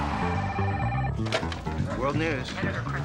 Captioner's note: telephone ringing